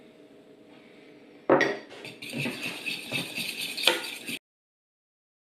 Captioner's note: whisk whisk stir stir